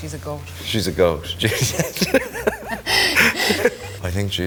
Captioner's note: both laughing